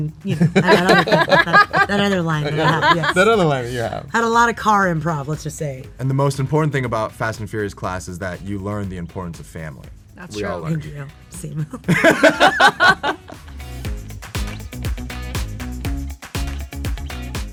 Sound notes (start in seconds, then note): 3.3 all laugh; 11.8 all laugh; 13.8 upbeat music